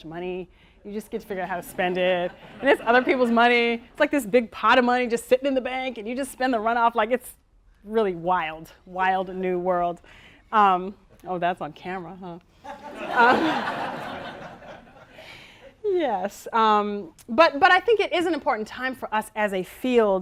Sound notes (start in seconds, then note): 2.2 audience laughing; 12.7 audience laughing